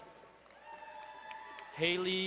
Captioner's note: crowd cheering and applauding